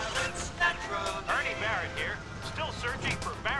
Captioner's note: singing on the radio